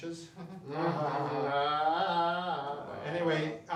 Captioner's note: laughs